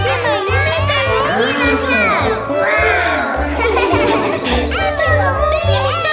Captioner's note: laughing